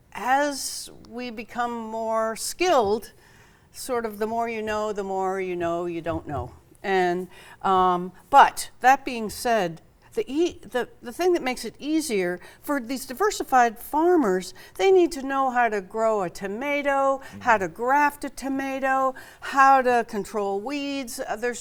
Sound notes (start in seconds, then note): none